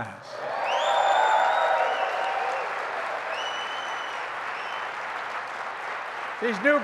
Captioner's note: applause